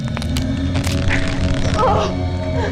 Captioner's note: shirt ripping